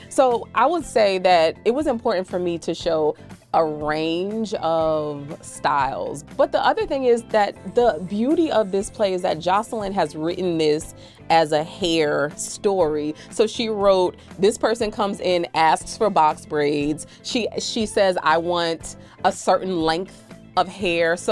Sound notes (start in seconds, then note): none